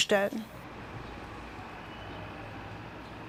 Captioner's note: quiet traffic noise